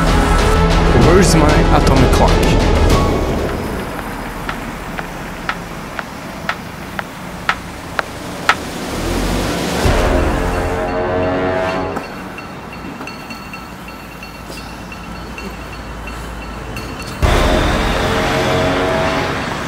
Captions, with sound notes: Where is my atomic clock? (clock ticking)